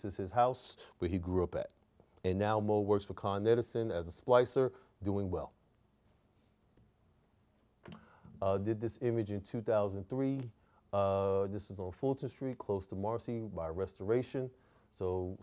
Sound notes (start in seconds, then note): none